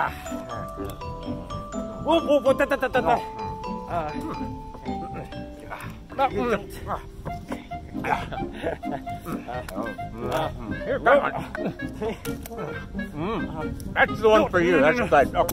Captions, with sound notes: Whoa whoa tututut! [sounds of confusion and licking ice cream] That's the one for you!